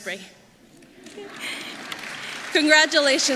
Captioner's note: applause